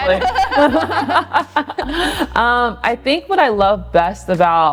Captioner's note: both laughing